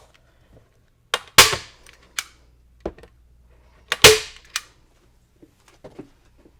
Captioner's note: staple gun inserting staples loudly